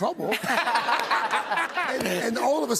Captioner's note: laughter